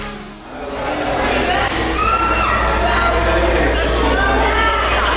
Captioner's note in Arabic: ثرثرة جماعية